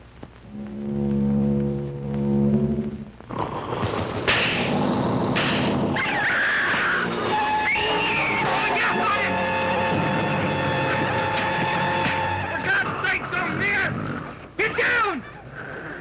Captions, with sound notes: [growling] [gunshots] [screaming] Put the gas on it. For God's sake, don't miss. Get down.